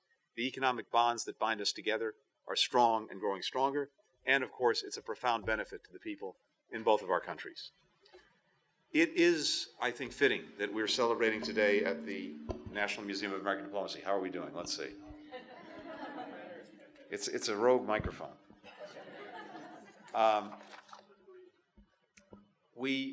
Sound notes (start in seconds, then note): 15.3 laughter; 20.4 laughter